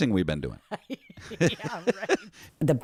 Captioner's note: laugh